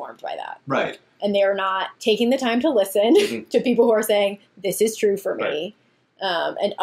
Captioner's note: laughs